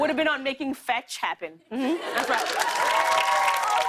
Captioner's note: cheers and applause